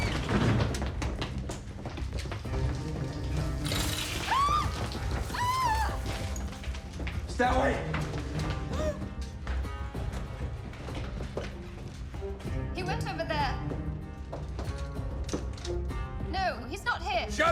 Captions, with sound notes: (water splashes) (woman screams) Stairway! (woman gasps) - He went over there. No, he's not here. - Shut up!